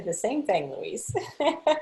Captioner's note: laughing